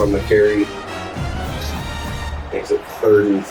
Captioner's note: crowd Noises